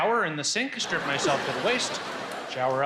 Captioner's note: crowd lauging